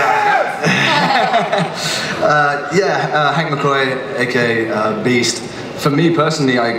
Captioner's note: laughs